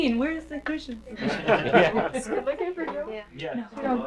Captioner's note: crowd laughter